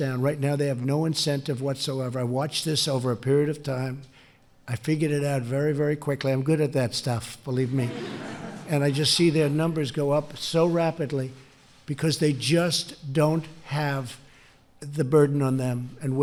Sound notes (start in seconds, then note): 7.7 laughter